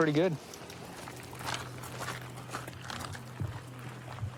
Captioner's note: footsteps crunching